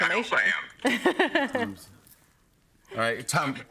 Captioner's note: laughs